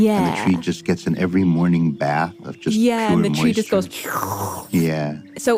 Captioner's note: slurps